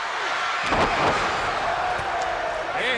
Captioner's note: Vader thuds